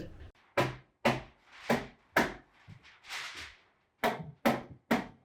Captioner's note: hammer pounding